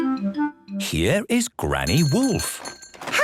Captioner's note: bell jingling